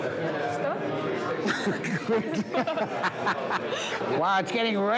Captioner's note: both laughing